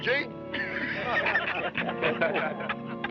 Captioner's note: laughing